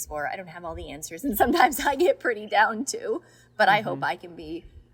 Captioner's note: laughing